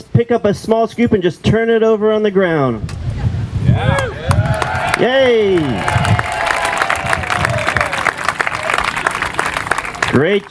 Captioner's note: applause